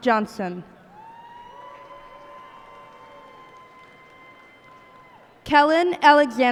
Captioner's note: cheers and applause